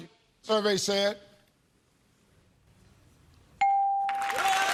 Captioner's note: screams